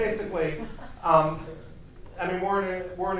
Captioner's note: chuckles